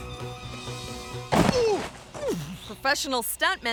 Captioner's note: groans